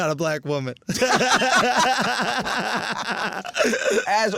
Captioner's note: laughs